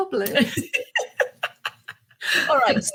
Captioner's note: chuckles